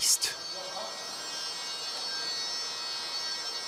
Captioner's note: snatches of words, screeching of saws